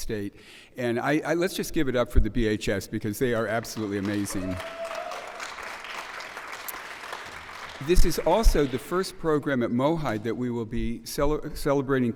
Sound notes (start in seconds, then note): 3.6 cheers and applause